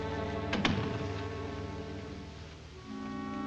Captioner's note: door thuds shut nearby; dramatic music